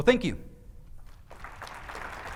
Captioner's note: applause